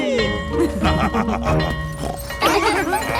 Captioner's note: school bell ringing; both laughing; daddy pig snorts